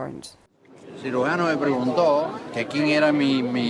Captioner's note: in Spanish